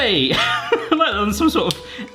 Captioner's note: laughs